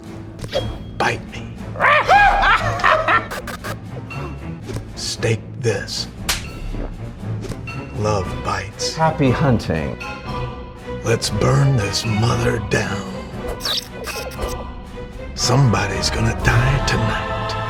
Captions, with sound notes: - Bite me. (dummy barks) (Dell shrieks) (dummy laughing) (lights buzzing) - Stake this. (hand slaps) Love bites. - Happy hunting. - Let's burn this mother down. (lights buzzing) Somebody's gonna die tonight.